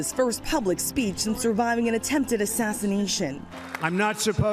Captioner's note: cheers and applause